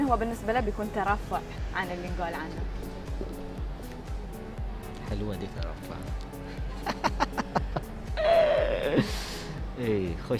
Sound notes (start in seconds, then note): 6.7 laughs